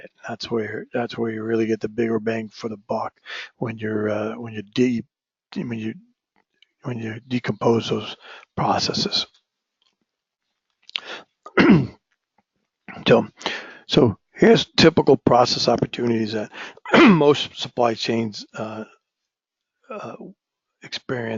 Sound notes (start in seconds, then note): 11.5 cough; 16.8 cough